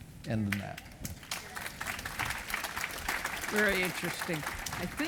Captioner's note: audience applauding